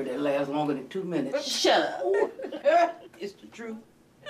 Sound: chuckling

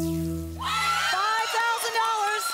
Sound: audience applause

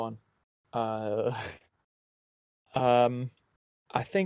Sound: laughs

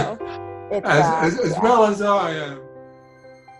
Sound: laughing

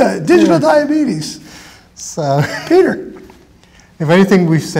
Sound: chuckles

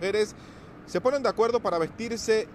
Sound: HABLA EN INGLéS

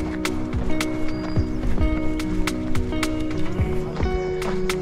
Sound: birds chirping

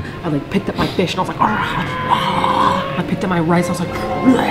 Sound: singing a fancy song; eating noises?; more eating noises

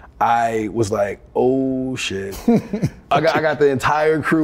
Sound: Ben chuckles

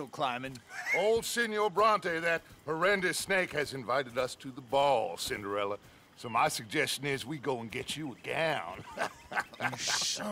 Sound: laughs

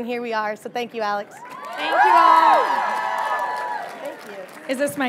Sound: audience cheering

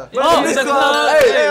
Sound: yelling

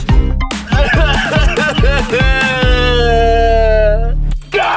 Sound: Mukbang King sobbing

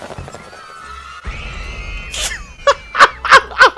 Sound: sounds of children burning alive

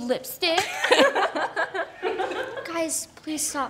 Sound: both laughing

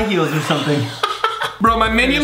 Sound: laughs

